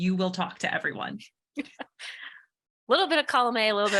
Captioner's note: laughs